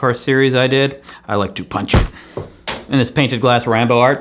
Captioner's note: thuds